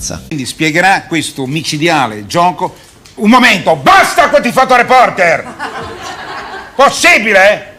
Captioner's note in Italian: risate